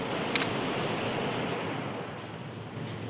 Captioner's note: camera Shutter